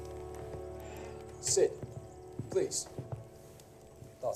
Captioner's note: speaks Mandarin